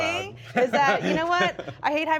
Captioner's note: laughs